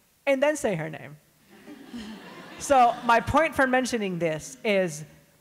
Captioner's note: laughter